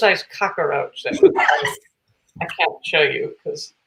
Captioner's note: laughs